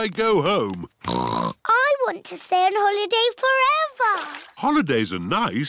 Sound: snorts

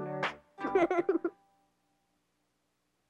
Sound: laughs

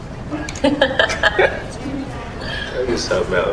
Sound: laughing

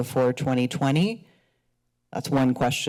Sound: pause

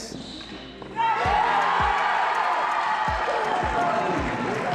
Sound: crowd cheering

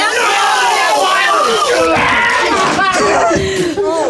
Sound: screaming

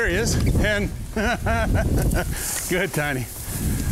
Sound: laughs

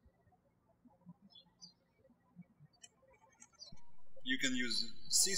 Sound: birds chirping

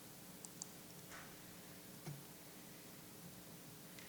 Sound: mouse clicking

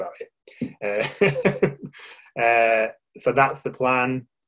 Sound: laughing

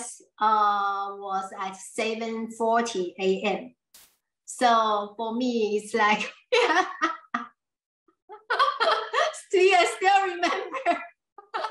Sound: laughs

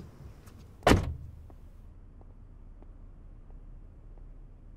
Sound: car door closes

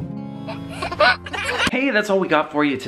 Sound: laughs

